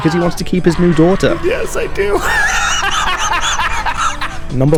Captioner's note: evil laughter